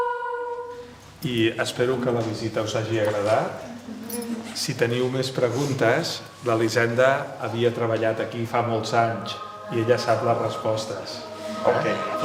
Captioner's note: man speaking in Spanish